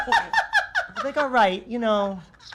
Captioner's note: laughing